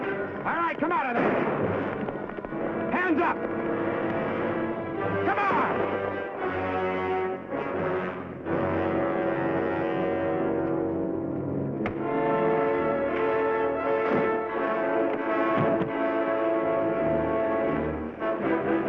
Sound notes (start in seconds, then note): 12.2 thuds; 15.8 suspenseful music